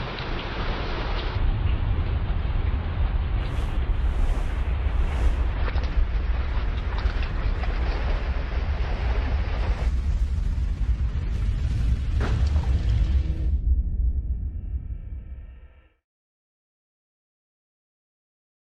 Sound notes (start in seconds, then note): 1.4 air rushing past and rustling; 12.1 water droplet bursts